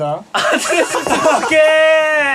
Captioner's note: ahhhhhh